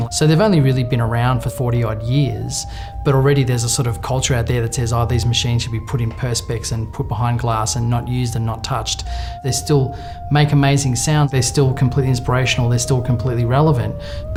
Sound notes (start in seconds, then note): none